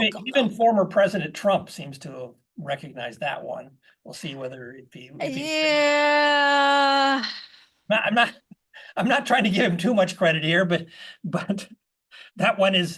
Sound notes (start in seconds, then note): 8.3 laugh